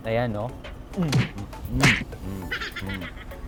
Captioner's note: grunts